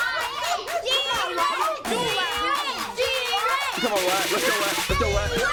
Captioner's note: kids continue cheering